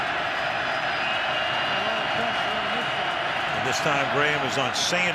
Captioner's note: crowd cheering